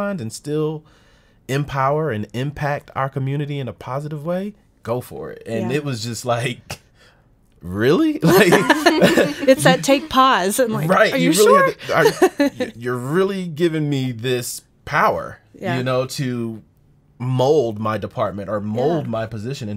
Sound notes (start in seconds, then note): 8.2 laughing